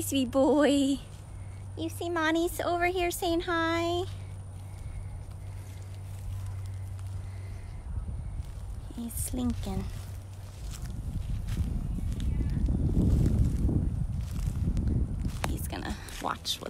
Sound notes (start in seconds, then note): 3.7 machine sound